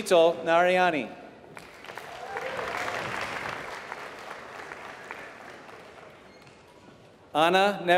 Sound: applause

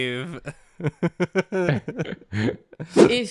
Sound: laughter

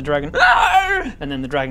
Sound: aarragaaaah!

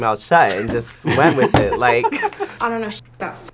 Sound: laughs

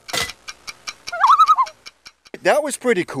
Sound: loon calls

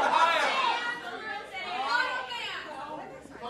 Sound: crowd shouting

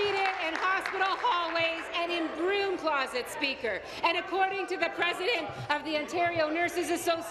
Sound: applause

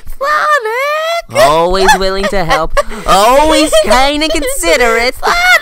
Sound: giggling

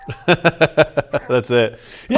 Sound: laughing

